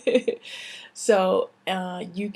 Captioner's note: laughs